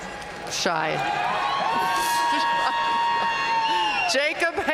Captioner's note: audience cheering and applauding